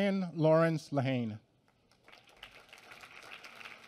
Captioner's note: applause